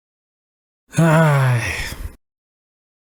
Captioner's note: A nervous sigh